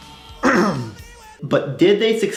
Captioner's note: coughs